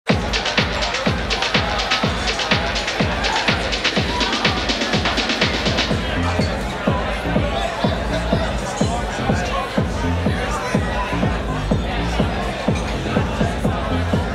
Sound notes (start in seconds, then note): 0.2 rhythmic dance music; 2.6 crowd chattering; 10.1 rhythmic dance music continues